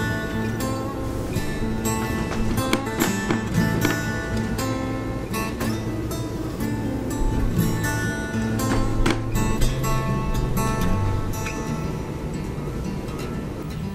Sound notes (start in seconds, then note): 2.6 bed creaks